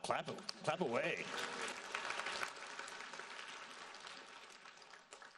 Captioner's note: audience applauding